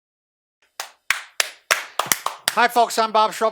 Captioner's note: clapping